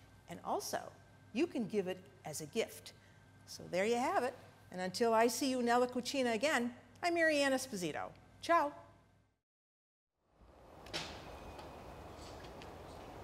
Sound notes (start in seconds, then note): 5.6 speaking in Italian